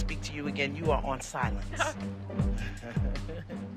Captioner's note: chuckling